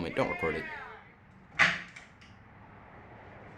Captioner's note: silence